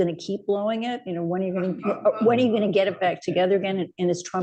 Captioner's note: laughter